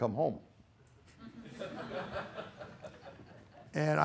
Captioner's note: laughter